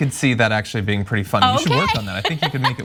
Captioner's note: laugh